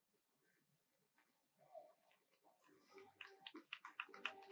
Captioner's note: faint applause